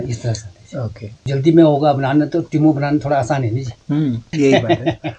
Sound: laughing

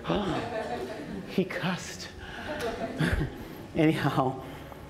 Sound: gasps

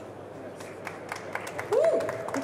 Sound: audience applauds

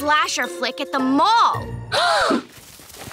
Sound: gasping

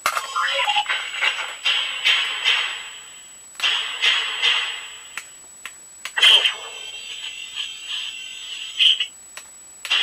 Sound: metal Clunking Sounds

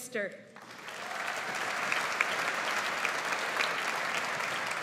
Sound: audience applauds

